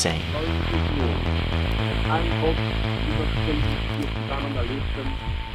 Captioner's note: people speaking in foreign language